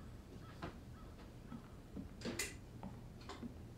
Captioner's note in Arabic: none